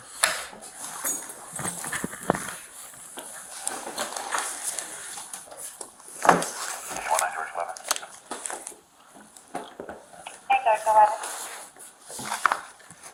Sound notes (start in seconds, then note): 2.1 police radio chatter